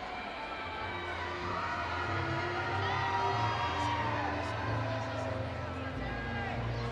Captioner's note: audience cheering